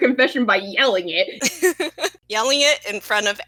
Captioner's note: laughter